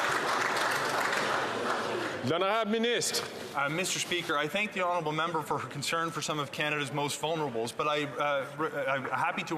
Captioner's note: some Applause